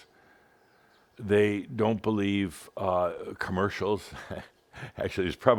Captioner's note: Adamus chuckles